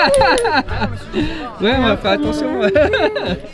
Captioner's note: laughing